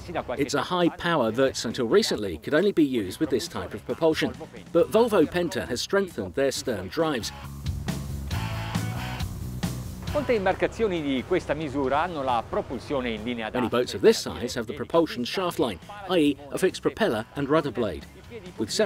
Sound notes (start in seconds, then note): 7.7 upbeat music; 10.7 speaks in foreign language